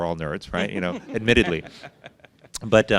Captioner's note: laughs